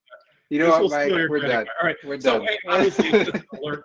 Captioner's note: laughs